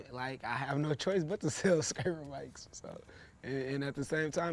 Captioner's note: chuckles